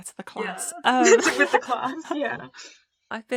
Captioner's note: giggling